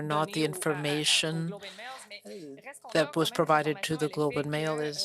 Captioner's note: speaking French